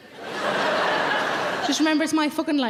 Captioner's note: audience laughing